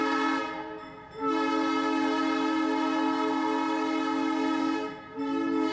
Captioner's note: train horn